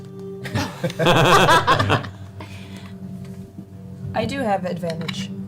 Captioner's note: all laugh